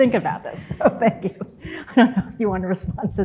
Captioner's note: laughs